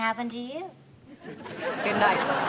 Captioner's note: audience laughs